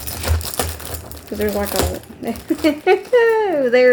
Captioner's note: chuckles